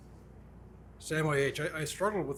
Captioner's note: none